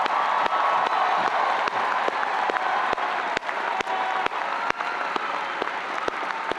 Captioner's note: audience applauding and cheering